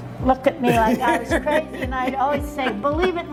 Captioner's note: laughs